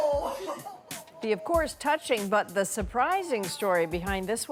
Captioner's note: laughter